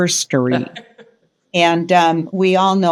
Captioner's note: laughing